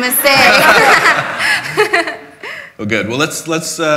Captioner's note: laughter